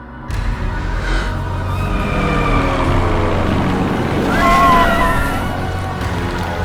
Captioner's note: dramatic music; engine rumbling; dramatic music; people yelling